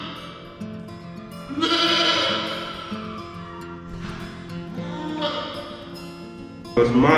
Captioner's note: goat bleating